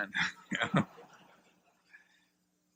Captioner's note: laughter